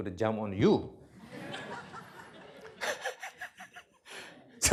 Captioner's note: laughter